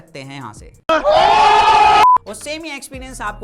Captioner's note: ohhhh !!!